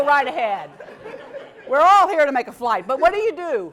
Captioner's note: laugh